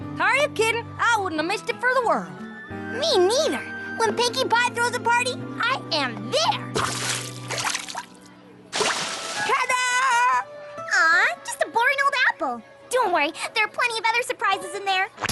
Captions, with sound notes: Are you kiddin'? I wouldn't have missed it for the world. Me neither. When Pinkie Pie throws a party, I am there! [ Splash! ] Ta-Da! Aww, just a boring old apple. Don't worry. There are plenty of other surprises in there.